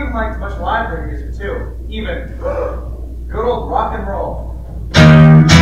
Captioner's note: gasp